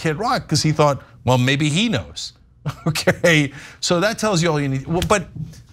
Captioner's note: laugh